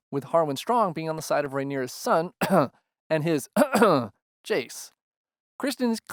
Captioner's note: cough; cough cough